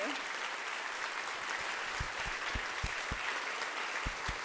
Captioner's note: audience applauding